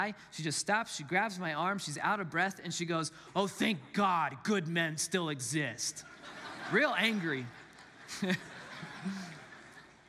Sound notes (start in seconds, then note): 5.9 congregants laugh